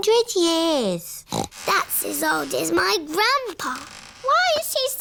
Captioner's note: snorts